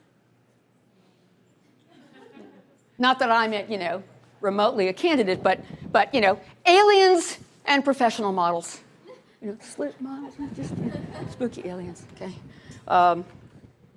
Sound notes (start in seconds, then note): 1.8 laughter; 10.3 laughter